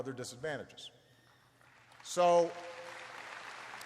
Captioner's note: applause